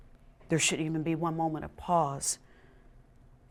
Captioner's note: none